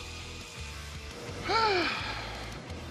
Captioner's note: sighs